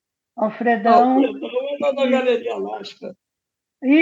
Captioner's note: director speaks through the computer